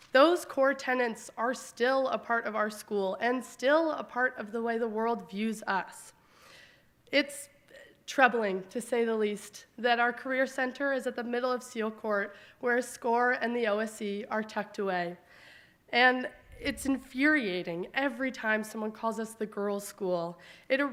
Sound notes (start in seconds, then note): none